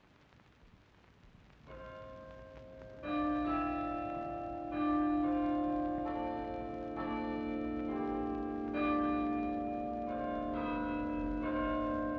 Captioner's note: bells Ringing